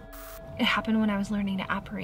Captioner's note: static crackles